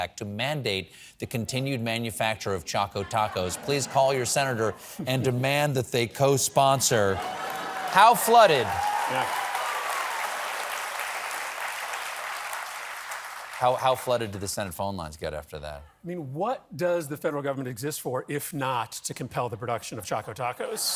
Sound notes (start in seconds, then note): 13.1 cheers and applause